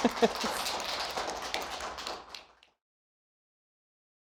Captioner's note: audience applauding